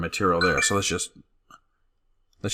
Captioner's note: computer dings